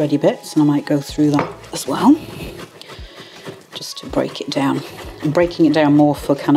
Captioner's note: chop chop chop